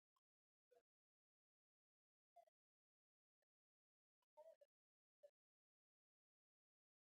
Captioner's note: background chatter